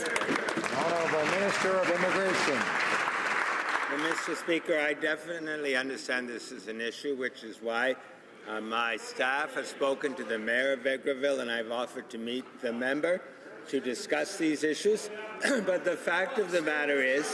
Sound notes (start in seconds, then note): 2.8 some Applause